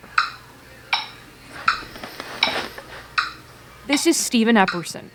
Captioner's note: rhythmic ticking